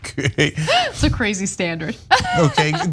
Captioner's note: laugh